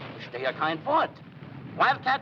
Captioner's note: speaking foreign language